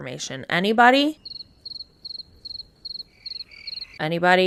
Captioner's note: crickets